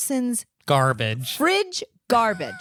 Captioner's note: giggling